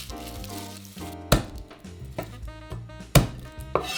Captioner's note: garlic paper rustling; knife smashing